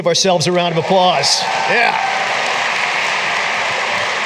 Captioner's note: applause